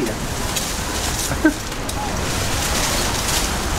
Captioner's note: rustling